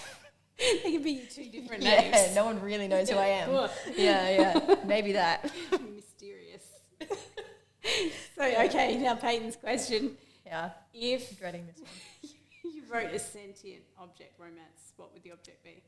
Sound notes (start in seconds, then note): 3.5 laughs; 7.0 both laugh